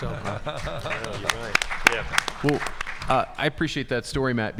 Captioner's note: audience applauding